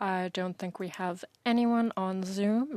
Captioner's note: speaking French